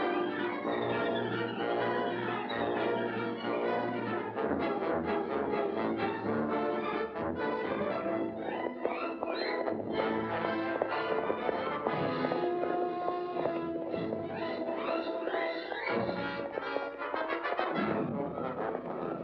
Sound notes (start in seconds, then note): 8.4 dramatic music; 8.4 hooves pounding